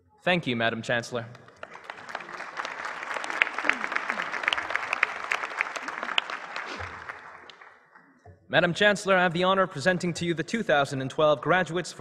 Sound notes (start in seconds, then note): 1.2 applause